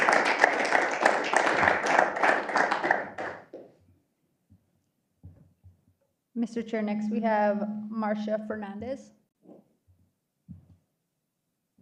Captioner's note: applause